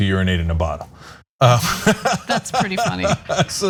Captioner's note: laugh